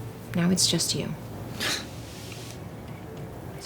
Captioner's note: scoffs